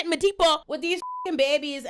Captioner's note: beep